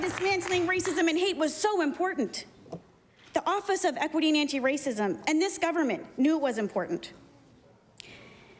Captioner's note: applause